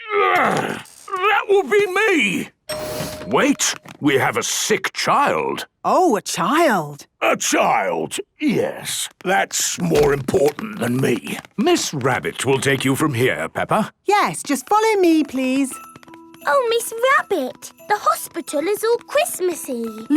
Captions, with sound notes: - Groan! That would be me. - (door dings open) - Wait! We have a sick child! - Oh! A child! - A child, yes... That's more important than me. - Miss Rabbit will take you from here, Peppa. - Yes, just follow me, please. - Oh, Miss Rabbit, the hospital is all Christmas-y!